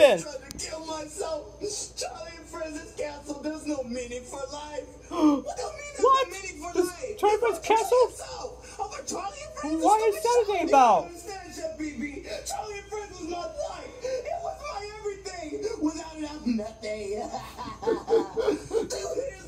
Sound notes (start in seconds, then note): 5.1 gasps; 17.4 sobbing